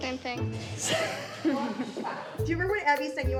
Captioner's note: Abby laughs